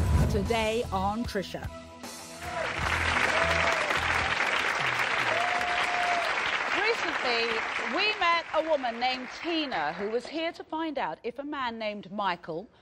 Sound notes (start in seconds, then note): 2.4 applauding